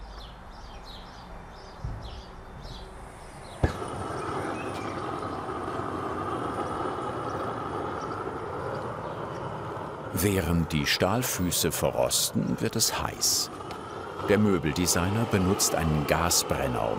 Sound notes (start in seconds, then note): 0.1 idyllic birdsong; 4.2 hissing